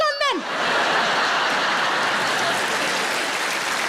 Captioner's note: audience laughs; audience claps